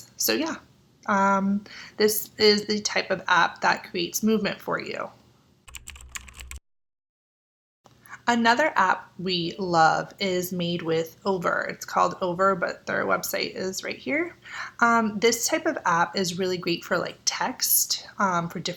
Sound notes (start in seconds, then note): 5.6 keyboard typing